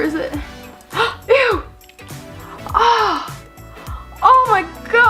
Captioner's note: gasps